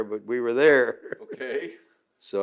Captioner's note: laughs